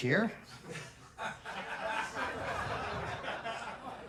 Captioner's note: laughter